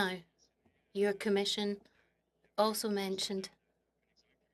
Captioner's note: speaking French